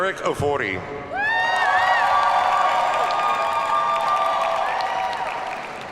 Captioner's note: audience cheers and applauds